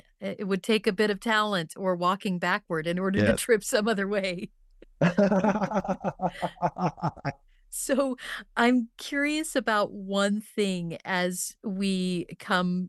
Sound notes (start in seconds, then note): 5.0 laughing